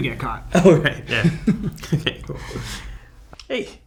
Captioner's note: laughs